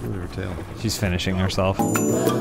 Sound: rubbing sound; beautiful music plays

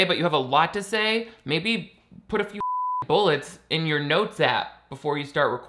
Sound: beeps

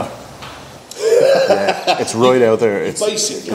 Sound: laughs

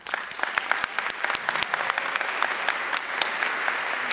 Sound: audience applauding

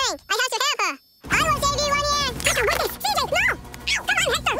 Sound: speaking fast forward

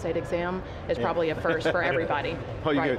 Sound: men laughing

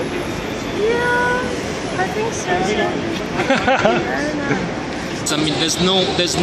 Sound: laughs

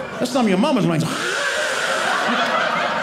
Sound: audience laughing; hissing

